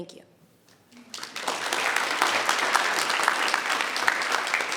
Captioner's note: members clapping